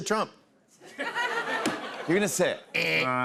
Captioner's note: laughter